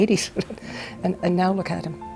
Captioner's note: chuckles